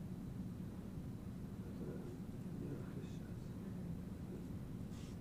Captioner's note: mumbling